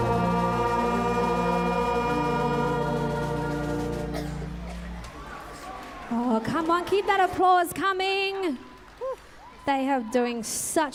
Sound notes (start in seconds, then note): 2.2 applause